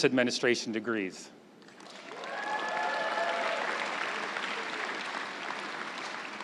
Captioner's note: crowd cheering and applauding